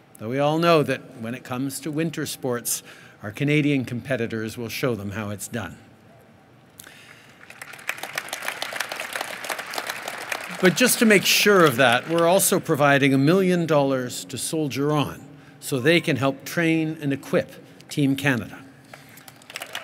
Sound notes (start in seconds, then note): 6.8 applause